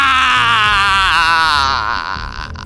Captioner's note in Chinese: 泣不成声